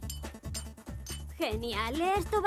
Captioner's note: clinking